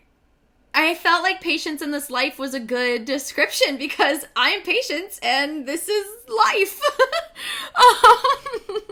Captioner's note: giggles